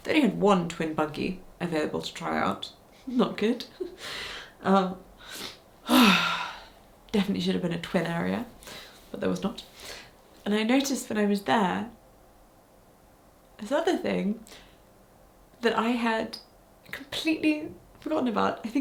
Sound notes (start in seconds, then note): 4.7 chuckles; 5.8 sighs